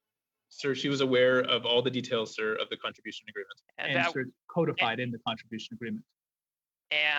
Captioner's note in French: voix de l'interprète